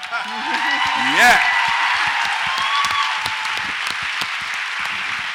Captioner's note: audience applauds and cheers